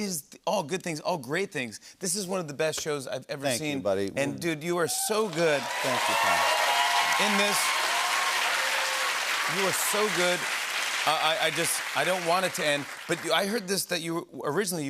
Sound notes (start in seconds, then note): 5.7 cheering and applause